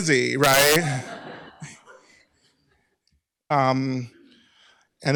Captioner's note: laughter